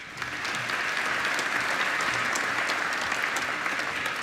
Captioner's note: applause